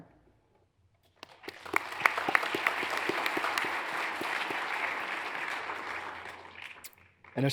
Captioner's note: hands clapping; audience applauds